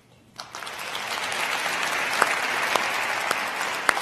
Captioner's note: crowd applauding